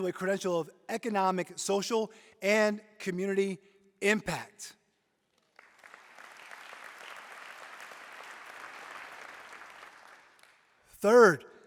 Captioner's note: applause